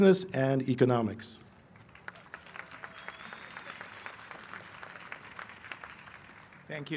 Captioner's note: applause